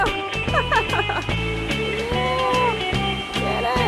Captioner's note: laughs